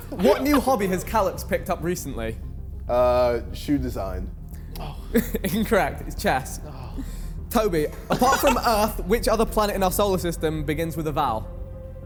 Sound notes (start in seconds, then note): 0.0 men laughing; 4.8 laughs